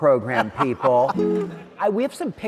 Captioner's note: laughing